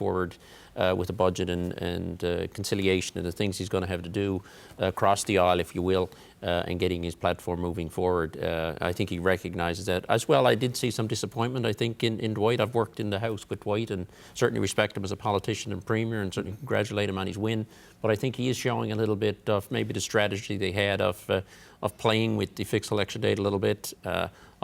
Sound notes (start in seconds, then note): none